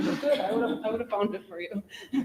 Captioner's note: people chuckle